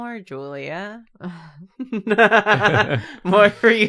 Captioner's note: laughs